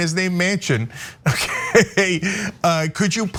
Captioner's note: laugh